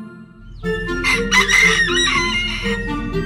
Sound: rooster crowing

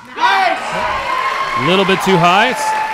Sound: audience cheering

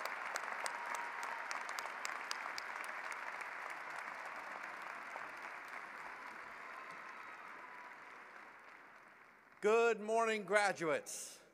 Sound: cheering and applause

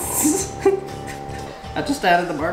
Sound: giggles

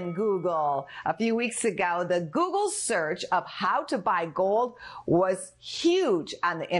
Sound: bell rings

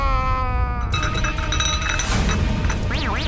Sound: cup rattles

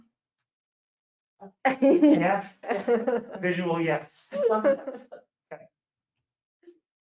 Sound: laughs

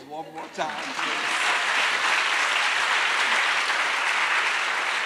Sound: attendees applauding

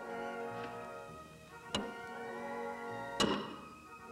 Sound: banging

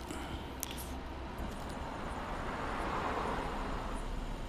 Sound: revving

